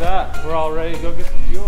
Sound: upbeat music; plane engine roaring

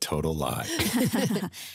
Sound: all laughing

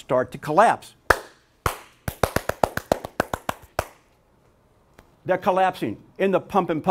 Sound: clapping

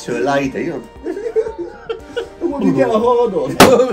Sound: both laughing

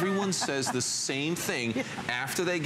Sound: laughter

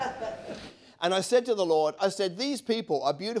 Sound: audience laughing

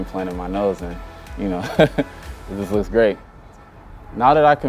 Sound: laughing

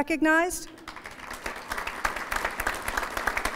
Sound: applause

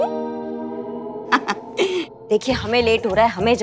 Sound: chuckling

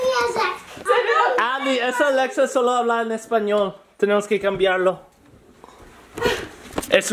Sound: speaking foreign language

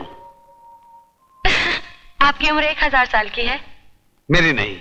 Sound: chuckles

